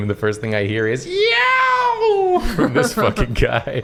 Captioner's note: scream